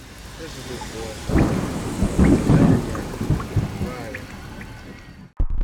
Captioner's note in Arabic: تحطم الرعد